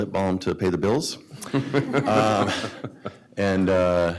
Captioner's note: laughter